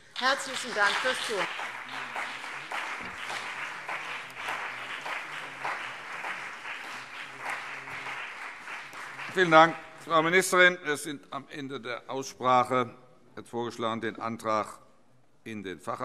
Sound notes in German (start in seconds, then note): 2.1 Beifall CDU und BÜNDNIS 90/DIE GRÜNEN